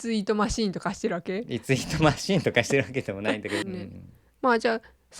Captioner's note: laughs